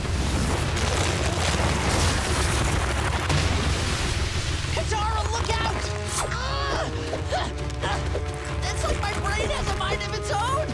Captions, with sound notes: Katara, look out! [grunting] It's like my brain has a mind of its own!